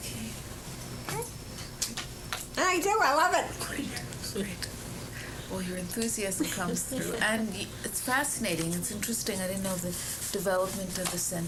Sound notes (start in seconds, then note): 6.4 laughter